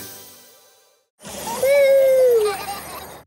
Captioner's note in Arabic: صوت ضحك ومرح